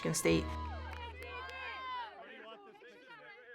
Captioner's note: cheering